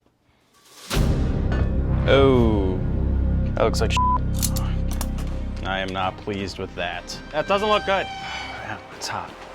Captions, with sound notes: (suspenseful music) - Oh, that looks like (beep). I am not pleased with that. That doesn't look good. Damn, that's hot.